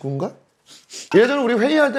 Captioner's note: sniff sniff